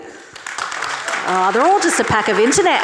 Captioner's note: audience clapping